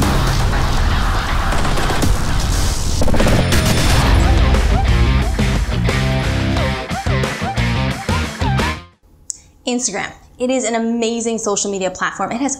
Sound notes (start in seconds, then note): 0.0 high intensity electronic music; 3.0 rock music; 4.1 lightning thunders loudly